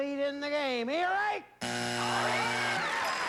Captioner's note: buzzer